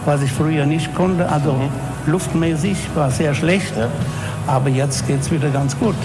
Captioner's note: speaking foreign language